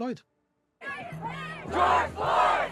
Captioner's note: chanting